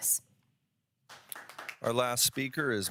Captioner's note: audience applauds